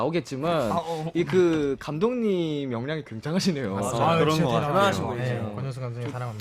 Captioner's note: general, overlapping agreement